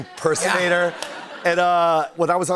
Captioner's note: laughter